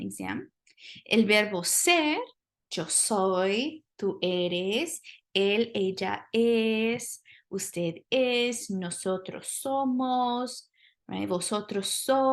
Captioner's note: speaking spanish